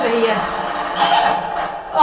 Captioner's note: cackle